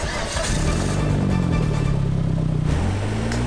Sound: engine starts

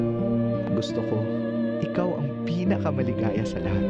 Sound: man speaks Filipino

